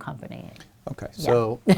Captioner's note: laughs